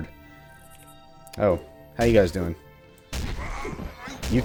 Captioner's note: thwack